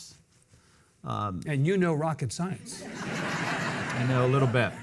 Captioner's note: audience laughing